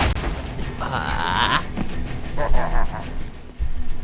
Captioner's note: groan